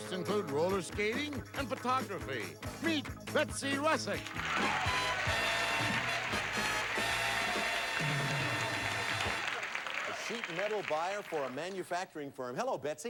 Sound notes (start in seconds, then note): 4.2 audience applauding; 8.2 indistinct chatter